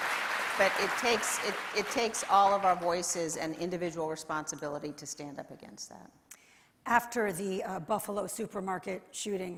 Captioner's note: applause